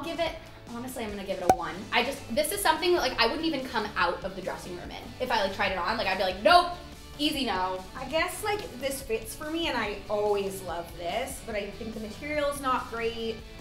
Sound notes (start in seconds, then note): none